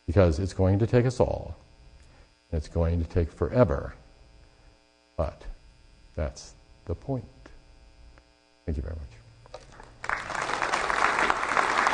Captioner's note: applause